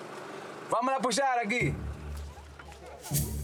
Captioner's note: Portuguese spoken audio